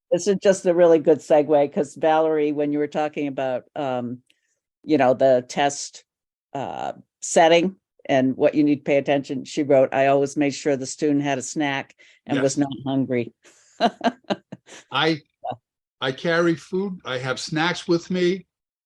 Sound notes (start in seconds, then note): 13.8 laughs